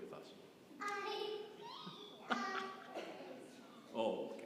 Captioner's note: both laughing